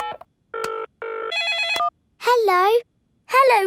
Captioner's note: beeping; phone ringing